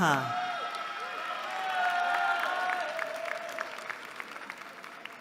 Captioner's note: cheering